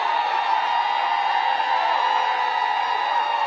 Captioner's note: applause